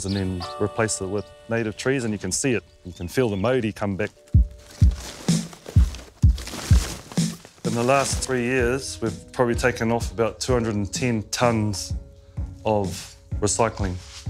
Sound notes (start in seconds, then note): none